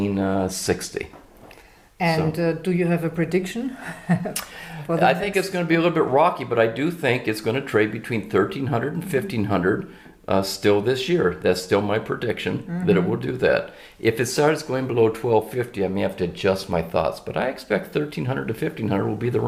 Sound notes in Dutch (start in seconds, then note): 4.1 lachen